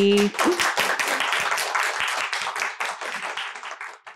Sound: applause

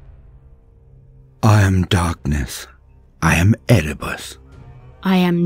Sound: male Voice

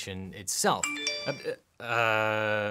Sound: mobile pinging

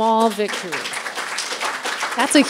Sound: people applauding

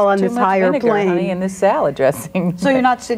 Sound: laughs

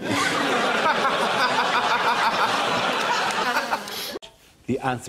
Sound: audience laughs

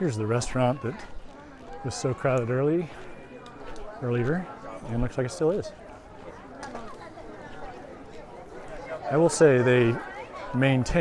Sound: background chatter

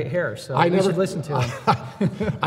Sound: laughs

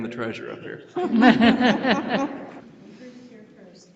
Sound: laughing

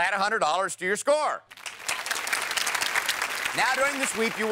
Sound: applause

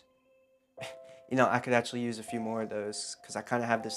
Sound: laughs

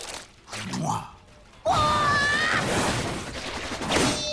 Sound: screaming

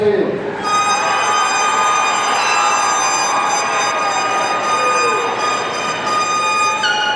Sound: audience cheering; party blower squeaking

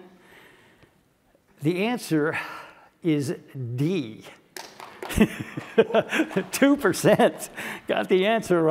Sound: laugh

